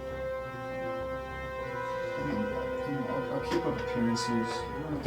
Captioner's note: murmur